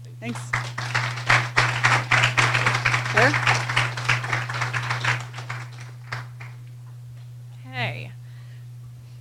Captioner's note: applause